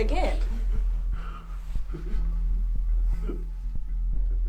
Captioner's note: Cameron sobbing